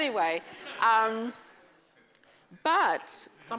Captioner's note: laughter